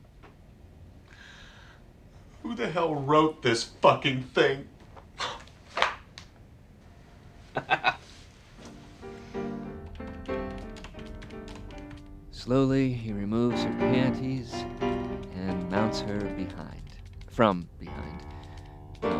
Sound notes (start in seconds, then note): 7.5 satisfied laugh; 9.7 keyboard clicking